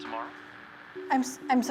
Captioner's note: static on phone